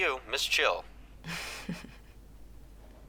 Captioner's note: chuckles